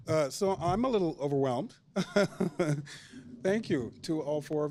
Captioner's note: chuckles